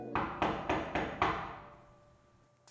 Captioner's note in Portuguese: batida na porta